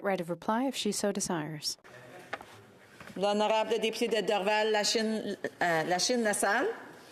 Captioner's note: speaking French